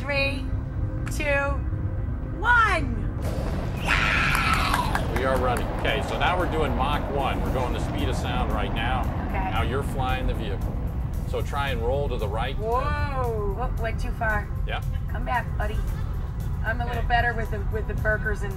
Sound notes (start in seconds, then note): 3.9 engine rumbles; 4.0 claps